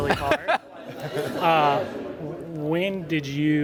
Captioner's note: laughter